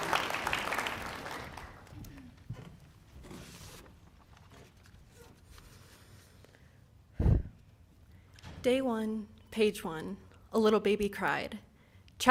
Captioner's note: applause